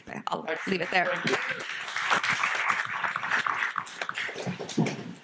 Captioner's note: audience clapping